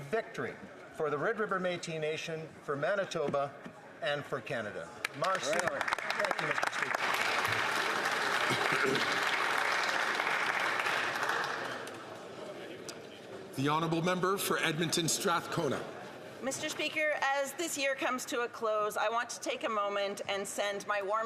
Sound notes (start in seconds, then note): 9.6 some Applause